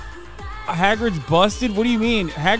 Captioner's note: chatter